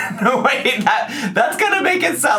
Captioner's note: laughing